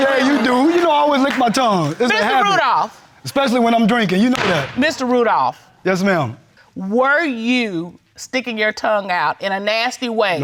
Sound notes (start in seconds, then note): 5.5 dana bangs gavel